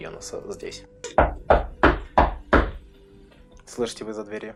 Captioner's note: loud knocking